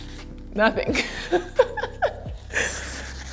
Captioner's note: laughs